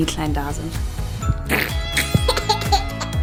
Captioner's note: funny sound; laughing